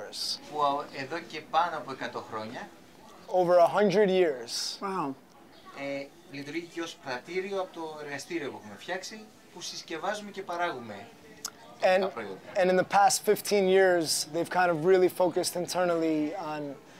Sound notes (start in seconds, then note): 0.2 speaking Greek; 5.4 speaking Greek